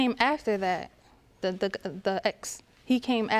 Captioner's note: stammers